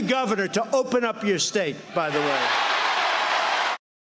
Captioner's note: audience reacts